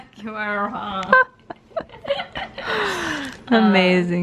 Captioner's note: both laugh + unintelligent gibberish